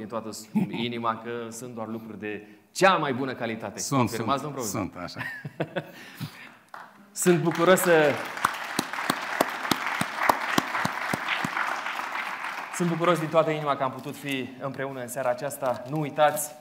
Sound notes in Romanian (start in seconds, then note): 10.0 Aplauze